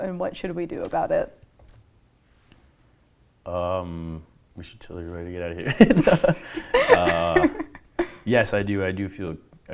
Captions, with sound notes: and what should we do about it? - We should totally be ready to get outta here. (laughing) Yes I do.